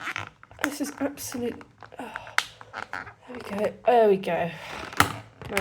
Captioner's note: sigh